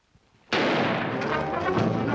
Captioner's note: gunshot